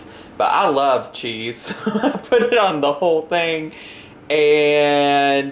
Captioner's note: laughs